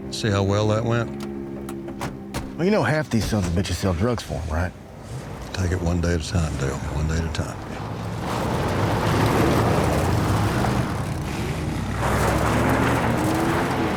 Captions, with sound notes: See how well that went? (doors thudding) - Well, you know half these sons of bitches sell drugs for 'em, right? - Take it one day at a time, Dale. One day at a time. - Yeah. (engines roaring)